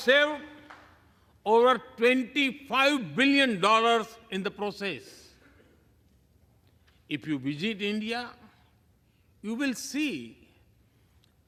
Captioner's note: applause